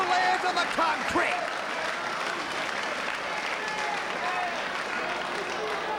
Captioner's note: spectators applauding